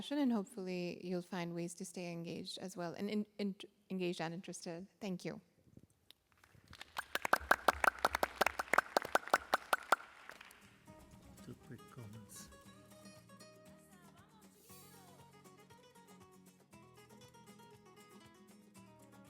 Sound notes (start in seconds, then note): 6.4 applause; 13.2 non-english speech